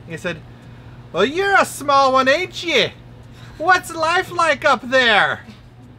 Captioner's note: irish/Scottish/?? accent